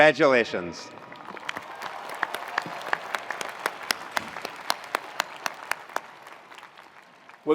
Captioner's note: attendees cheering; attendees applauding